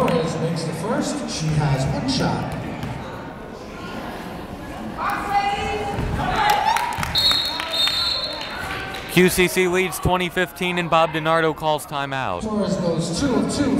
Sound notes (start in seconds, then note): 6.4 clapping; 7.1 whistle blowing